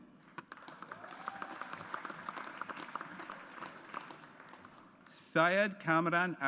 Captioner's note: audience applauds